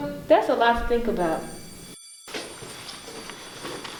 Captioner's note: bell rings